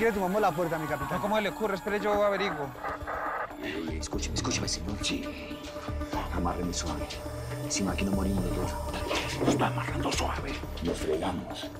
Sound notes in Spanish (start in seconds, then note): 4.4 En voz baja; 9.8 Susurra